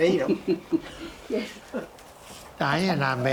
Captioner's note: chuckling